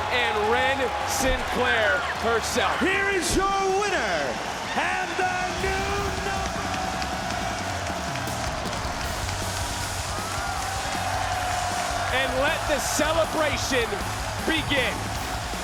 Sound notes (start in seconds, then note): 7.1 crowd cheers; 7.1 heavy rock music